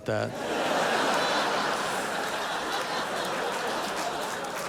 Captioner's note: audience laughing